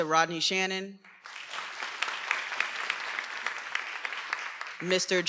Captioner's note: everyone applauding